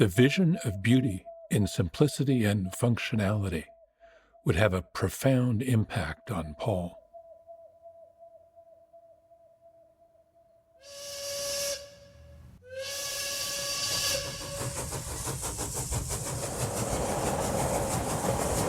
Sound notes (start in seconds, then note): 10.8 train horn blowing